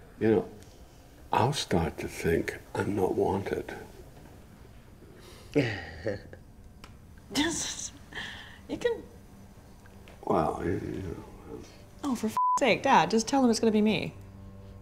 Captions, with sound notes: - You know, I'll start to think I'm not wanted. (woman laughing) - You can... - Well, you know. - Oh for (beep) sake. Dad just tell them it's gonna be me.